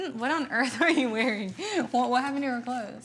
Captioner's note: chuckles